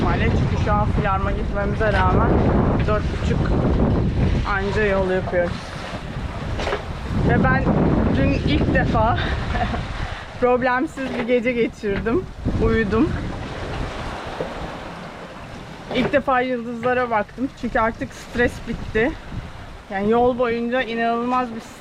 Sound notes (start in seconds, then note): 9.2 laughter